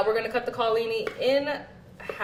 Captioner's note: none